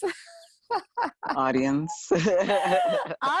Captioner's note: laughing